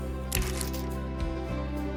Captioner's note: chain locks